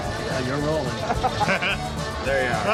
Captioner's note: laughing